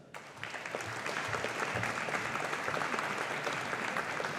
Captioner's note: audience applauding